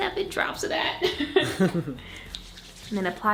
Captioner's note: laughs